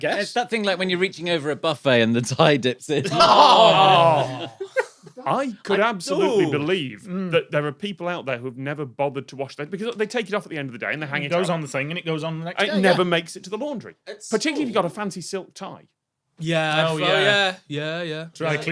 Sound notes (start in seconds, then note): 3.0 group groans and chortles